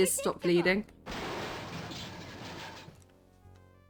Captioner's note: crash